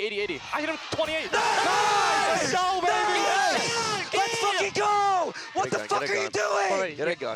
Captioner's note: guns firing; cheering